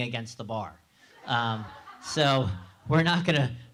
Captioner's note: laugh